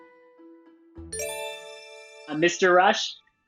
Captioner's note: electronic ringing